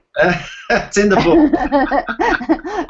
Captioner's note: laughing